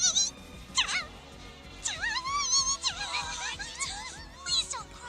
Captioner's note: Wigglytuff crying